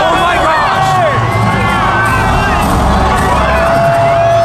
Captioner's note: crowd cheering